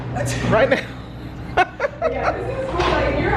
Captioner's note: laughs